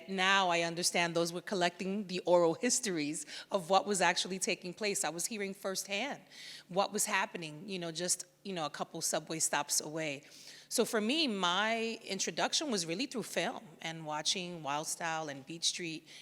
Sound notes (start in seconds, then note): none